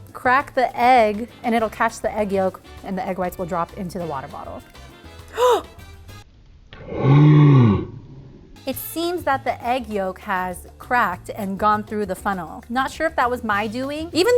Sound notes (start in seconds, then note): 5.3 gasps